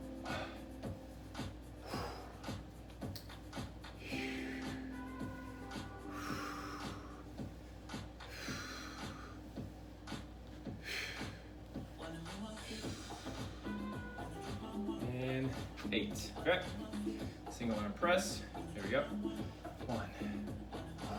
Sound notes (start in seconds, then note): 0.1 upbeat music; 0.2 breaths; 2.0 breaths; 2.0 upbeat music; 4.1 breaths; 4.1 upbeat music; 8.8 breaths; 8.8 upbeat music; 17.0 upbeat music; 20.1 breaths; 20.9 upbeat music